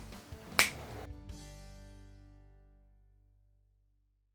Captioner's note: snaps fingers